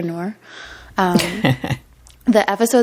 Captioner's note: laughter